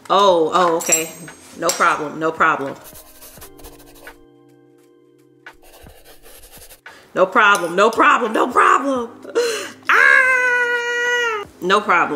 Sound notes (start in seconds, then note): 3.3 chalk brushing; 3.3 muffled gentle music